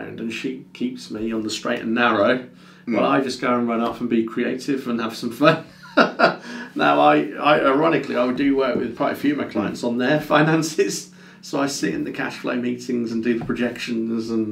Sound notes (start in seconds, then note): 5.7 laughs